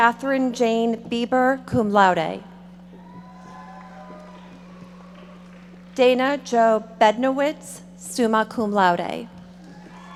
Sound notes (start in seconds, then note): 3.0 audience members applauding